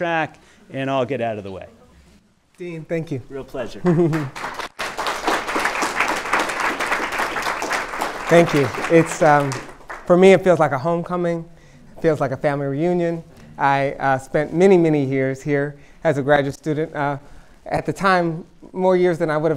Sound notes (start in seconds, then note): 5.5 applause